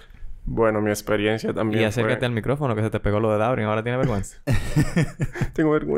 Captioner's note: laughs